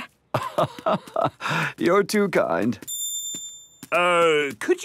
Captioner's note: laugh